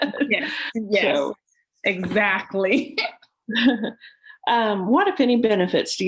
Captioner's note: laughs; laughs